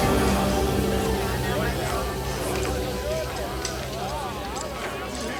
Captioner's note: townsfolk chatter